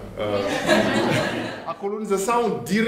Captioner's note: laughter